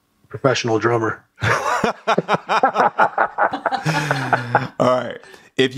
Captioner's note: laughter